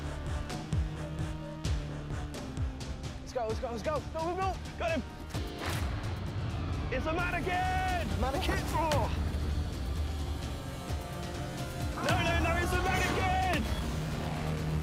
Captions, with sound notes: - Let's go, let's go. Go, go. - Got him! - It's a manikin! - Manikin? [Groans] - No, no, no, it's a manikin!